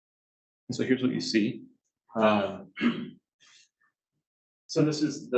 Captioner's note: clears throat